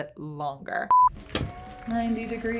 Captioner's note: beep